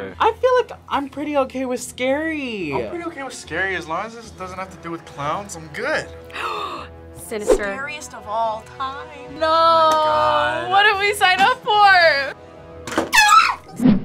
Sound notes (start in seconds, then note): 6.3 gasps; 13.1 screams